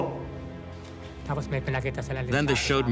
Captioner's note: non-english speech